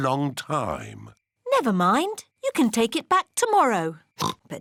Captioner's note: oinks